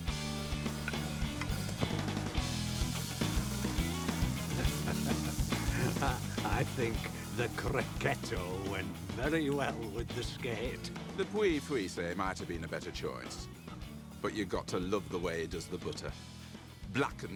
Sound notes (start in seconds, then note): 0.2 upbeat music; 4.0 chuckles; 12.0 speaking in foreign language